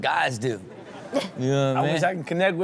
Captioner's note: crowd laughs